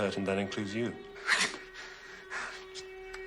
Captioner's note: chuckles